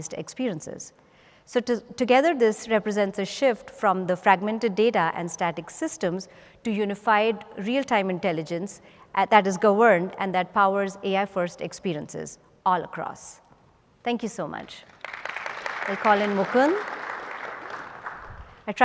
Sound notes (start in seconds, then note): 14.8 applause